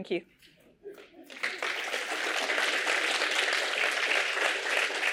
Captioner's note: applause